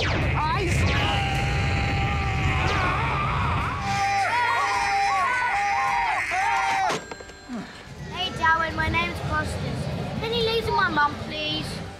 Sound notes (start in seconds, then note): 2.6 all cry out